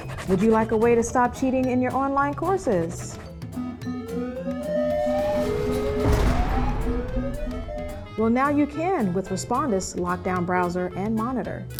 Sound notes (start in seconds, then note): 3.9 prison bars slamming; 4.8 alarms sounding